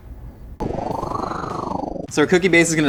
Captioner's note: wind whirling